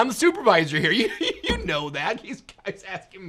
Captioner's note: giggling